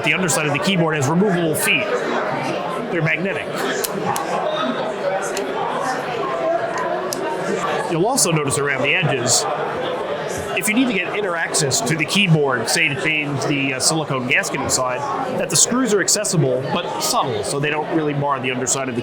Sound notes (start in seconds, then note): 4.5 indistinct background chatter